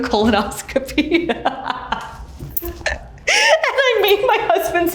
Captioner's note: Ashley chuckles